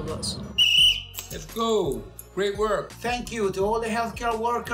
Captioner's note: whistle